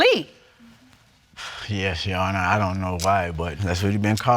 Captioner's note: sighs